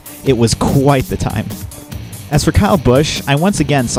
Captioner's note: none